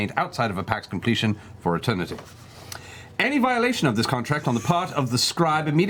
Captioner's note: big inhale